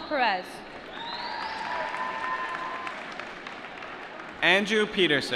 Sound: applause

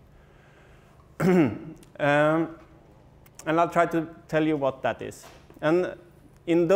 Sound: cough

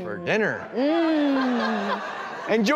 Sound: audience laughing

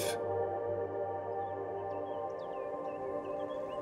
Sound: birds chirping

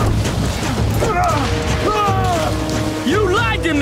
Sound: grunting

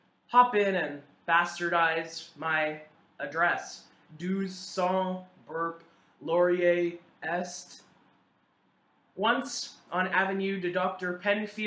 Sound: burp

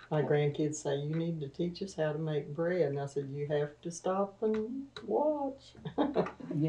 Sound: laughs

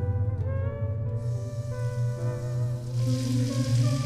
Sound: bath water running

